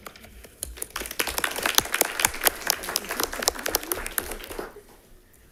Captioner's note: attendees applauding